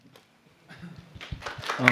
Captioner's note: applause